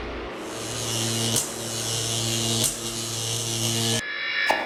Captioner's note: bikes droning; logo buzzing